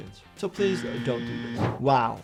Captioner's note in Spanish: suena el timbre